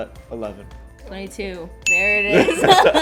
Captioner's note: bell chimes; laughs